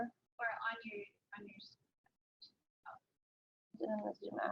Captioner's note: audio drops